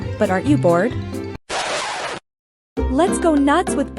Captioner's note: record Scratch